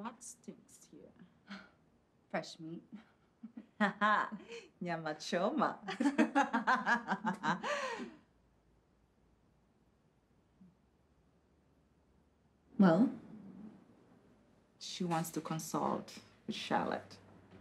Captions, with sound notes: - What stinks here? - Fresh meat. (speaks in foreign language) (laughing) - Well? - She wants to consult The Shallot.